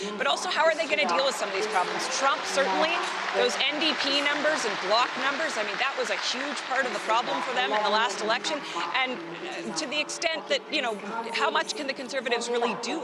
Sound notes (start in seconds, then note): 7.6 applause